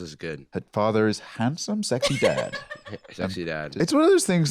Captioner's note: laughs